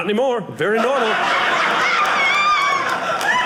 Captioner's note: audience laughing